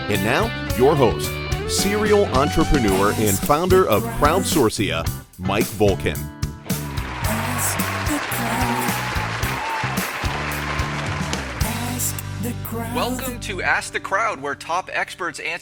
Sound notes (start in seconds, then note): 6.7 cheers and applause